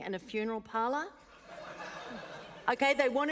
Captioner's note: laughter